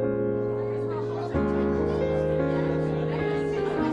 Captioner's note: lively chatter